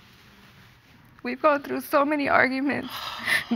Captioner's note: sobbing